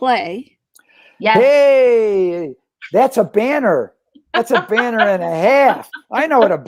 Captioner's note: laughter